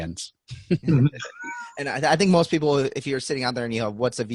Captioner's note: all laughing